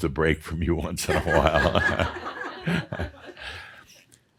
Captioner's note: laughter